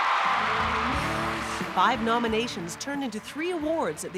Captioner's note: audience cheering